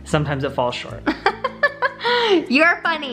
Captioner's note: laughing